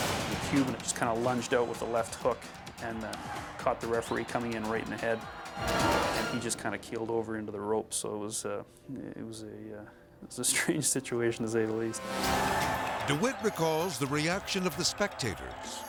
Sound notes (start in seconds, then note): 5.5 edgy dramatic music; 11.9 edgy dramatic music; 12.0 crowd yelling